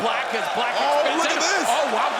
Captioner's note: crowd cheering